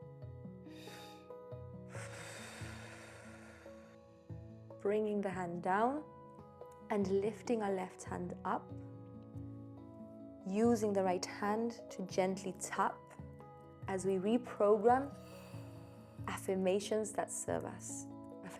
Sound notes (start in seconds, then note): 1.8 both exhaling